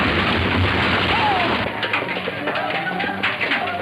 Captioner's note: explosion booms